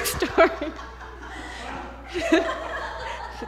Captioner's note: laughter